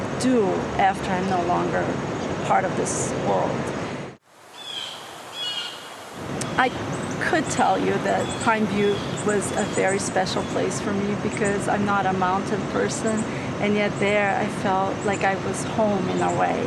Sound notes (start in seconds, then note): 4.3 water flowing; 4.5 birds cawing